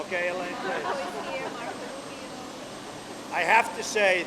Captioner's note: laughter